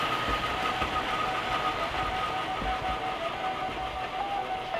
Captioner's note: motor whirs